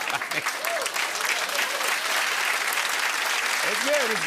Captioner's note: cheers and applause